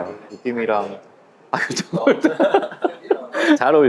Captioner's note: laughs